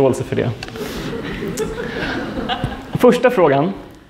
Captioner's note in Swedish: skratt